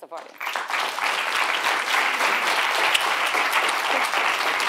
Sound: audience applauding

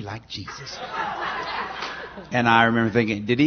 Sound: laughter

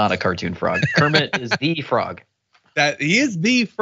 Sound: laugh

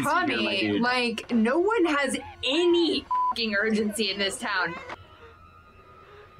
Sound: beep

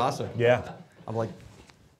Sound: laughing

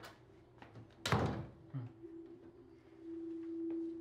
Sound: soft chuckle

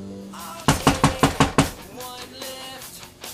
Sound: knocking on door

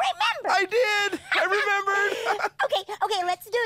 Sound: both laugh

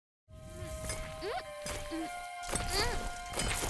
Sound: grunting; soft music

